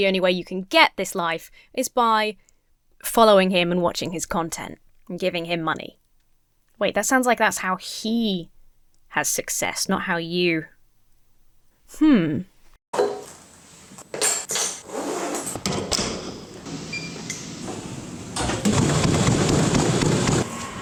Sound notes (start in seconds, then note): 14.0 items clank into shoulder bag; 14.3 bag zips; 15.4 door clatters; 16.8 keypad beeps; 18.6 feet thudding violently